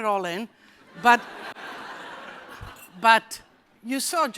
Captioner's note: laughter